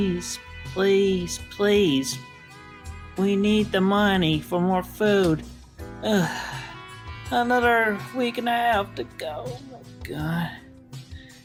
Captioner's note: sigh